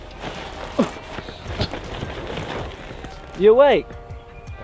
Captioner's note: tent rustling